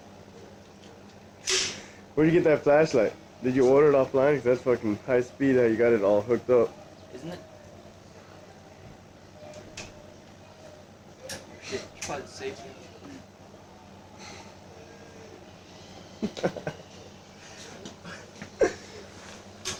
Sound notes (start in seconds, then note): 16.1 laughs